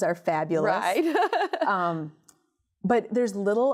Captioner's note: laughter